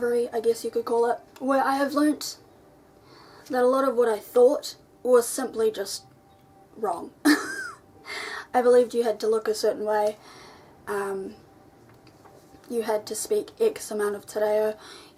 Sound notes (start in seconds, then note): 7.3 laughs